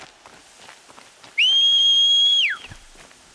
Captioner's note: whistle